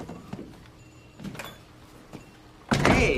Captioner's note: door opens